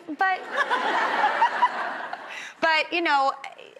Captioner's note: audience laughs